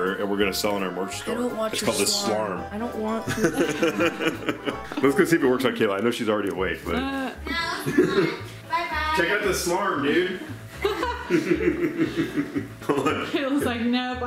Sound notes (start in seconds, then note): 3.2 laughing; 10.8 laughing